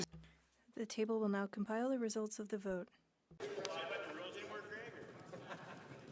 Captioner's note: speaking French